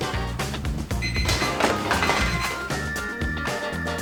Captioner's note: timer beeping; fun jazz music